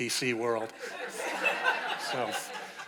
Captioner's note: audience laughing